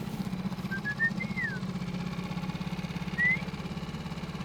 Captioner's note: high pitch whistling